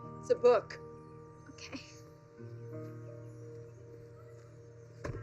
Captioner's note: laughs